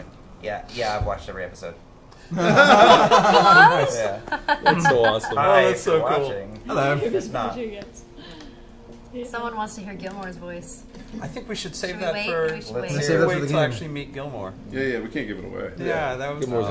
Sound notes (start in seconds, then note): 2.3 all laugh